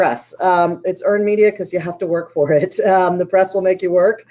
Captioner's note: laughs